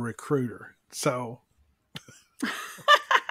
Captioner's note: laughs